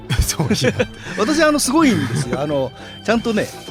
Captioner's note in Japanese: 笑い